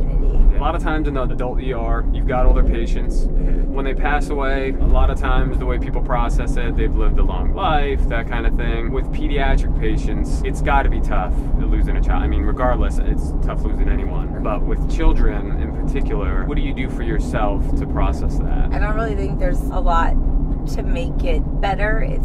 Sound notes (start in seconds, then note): none